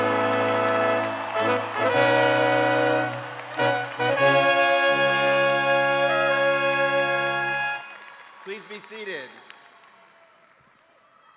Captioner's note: cheers and applause